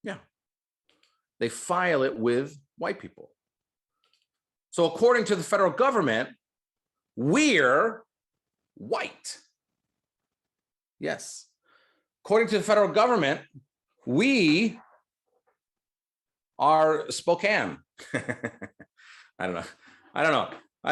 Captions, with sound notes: Yeah, they file it with white people. So according to the federal government, we're white. Yes. According to the federal government, we are Spokane. (chuckles) I don't know, I don't know,